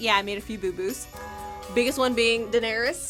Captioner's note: bell tollng